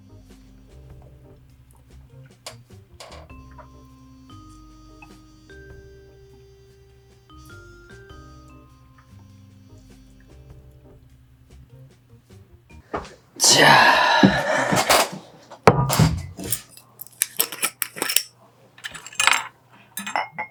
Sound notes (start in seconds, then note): 0.2 suspicious music; 17.0 sound of opening a bottle